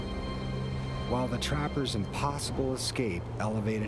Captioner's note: voiceover